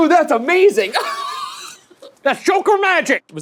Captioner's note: laughs